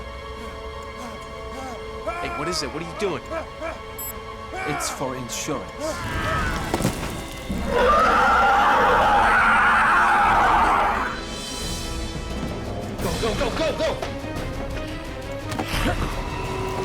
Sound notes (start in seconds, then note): 7.5 screams; 15.2 growling